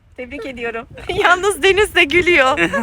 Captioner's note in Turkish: kahkaha